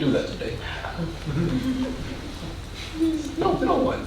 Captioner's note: audience chuckling